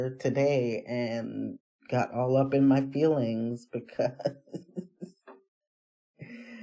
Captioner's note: laughs